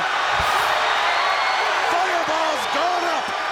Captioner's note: crowd cheers